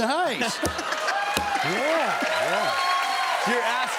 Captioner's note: cheers and applause